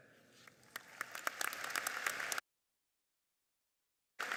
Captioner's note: applauding